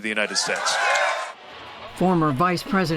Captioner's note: cheering and applause